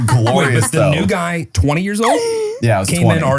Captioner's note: giggles